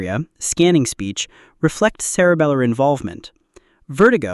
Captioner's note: scanning speech